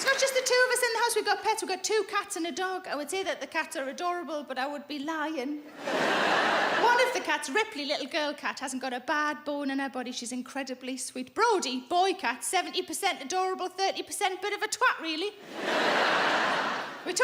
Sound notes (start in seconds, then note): 5.7 audience laughing; 15.4 audience laughing